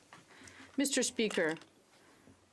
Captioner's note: speaking French